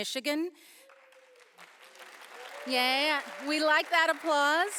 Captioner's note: audience applauding